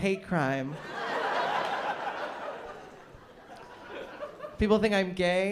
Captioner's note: laughter